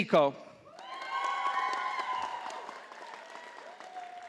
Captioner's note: audience applauding